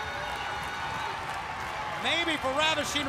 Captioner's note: crowd cheering